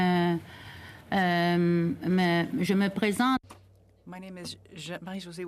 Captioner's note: speaking French